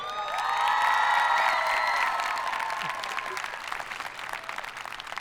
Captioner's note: audience applauding